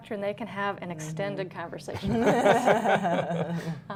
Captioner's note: laughter